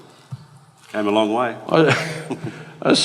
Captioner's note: both laugh